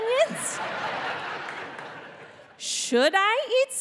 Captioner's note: audience laughing